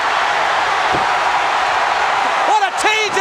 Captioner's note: crowd cheering